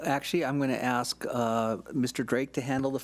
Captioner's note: none